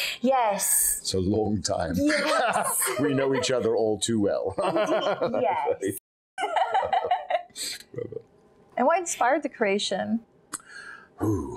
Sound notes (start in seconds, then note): 6.4 Lady Cimorene laughing; 6.4 laughing